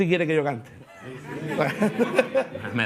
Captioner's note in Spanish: Risas